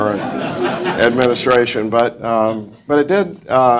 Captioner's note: audience laughs